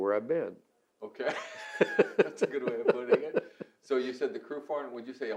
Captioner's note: both laugh